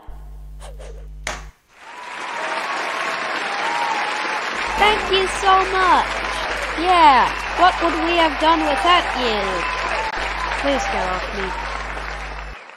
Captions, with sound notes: [crowd cheering] Thank you so much! Yeah, what would we have done without you? Please get off me...